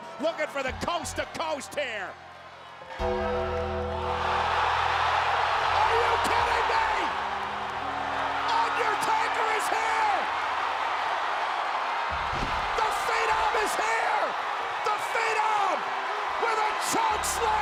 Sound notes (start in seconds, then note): 2.9 bell tolls; 3.1 audience cheers and applauds